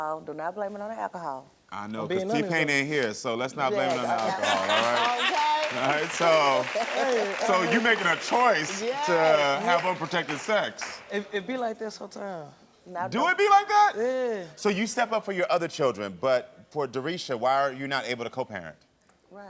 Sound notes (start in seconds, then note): 4.7 audience applauding; 5.6 all laughing